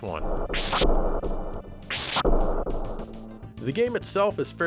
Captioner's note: whip lashing